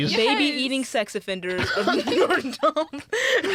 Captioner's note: laughing